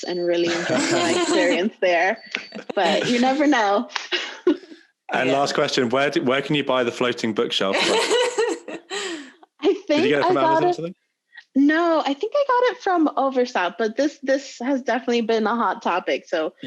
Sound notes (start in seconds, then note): 9.7 laughing loudly